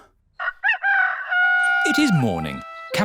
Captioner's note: rooster crowing